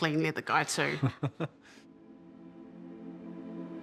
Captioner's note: chuckles